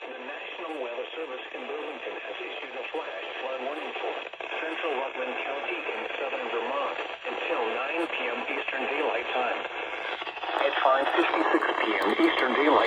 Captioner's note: talking With A Bunch Of Static In The Background